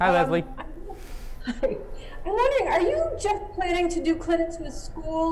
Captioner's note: chuckles